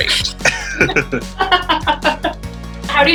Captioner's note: shared laughter